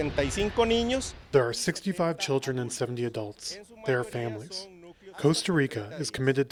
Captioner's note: through translator